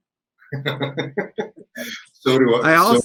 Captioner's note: laughter